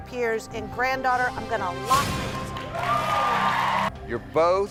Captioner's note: crowd cheers